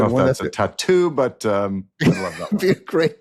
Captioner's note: laughs